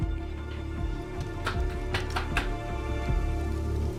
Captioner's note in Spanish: Toques en la pared